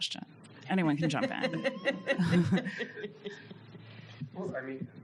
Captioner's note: panelists laugh